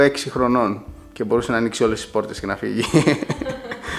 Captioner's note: laughing